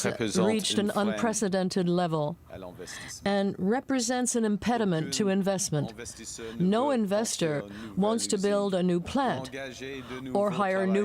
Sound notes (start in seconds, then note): 0.9 speaking French